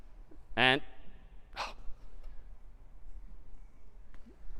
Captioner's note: sigh